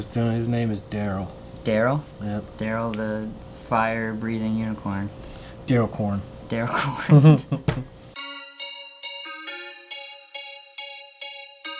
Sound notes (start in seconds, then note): 6.8 laughs; 8.4 upbeat hip hop music